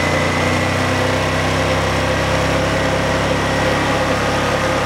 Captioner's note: engine running